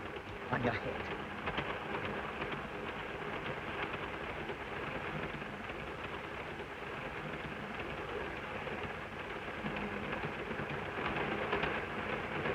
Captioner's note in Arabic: صوت خشخشة القطار